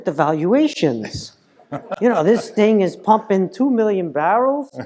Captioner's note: laugh